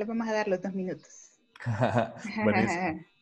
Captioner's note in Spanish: carcajada